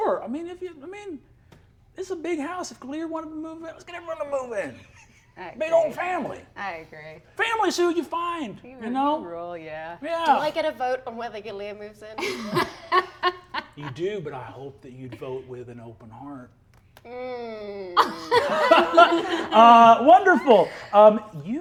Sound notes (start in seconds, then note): 12.1 laughs; 17.9 all laughing